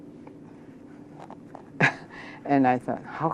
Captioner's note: laughs